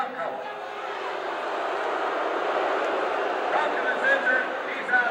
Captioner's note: crowd boos